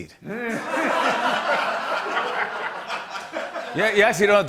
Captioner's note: laughter